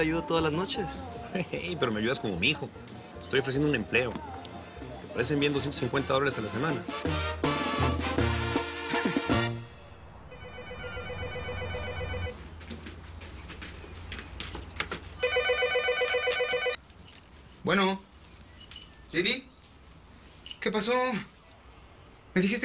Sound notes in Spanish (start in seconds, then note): 10.3 Suena el teléfono